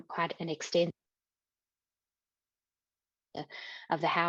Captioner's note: audio cuts out